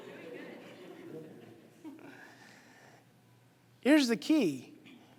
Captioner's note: audience laughing